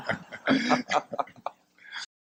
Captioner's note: laughter